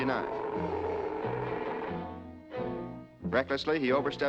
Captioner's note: growling